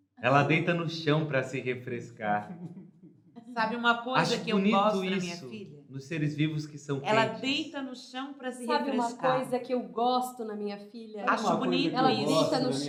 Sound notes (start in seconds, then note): 5.0 female voice on the background